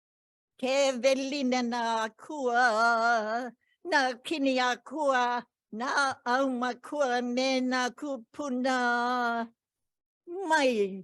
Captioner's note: speaking in ‘Ōlelo Hawai‘i